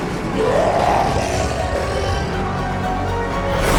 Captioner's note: 멀리서 으르렁거리는 소리